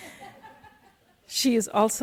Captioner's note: audience member laughs